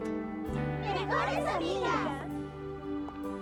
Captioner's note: all shouting; sad music